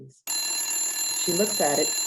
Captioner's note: phone ringing